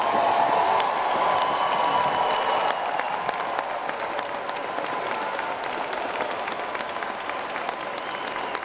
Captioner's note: applause